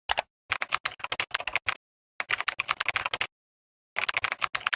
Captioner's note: keyboard clicking